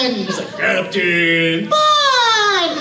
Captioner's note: deep voice